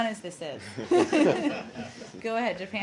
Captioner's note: laughter